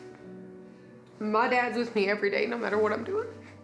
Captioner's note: sad music; tearfully